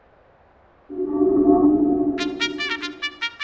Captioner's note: linking sound